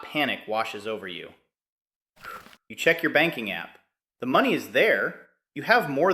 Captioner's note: exhales sharply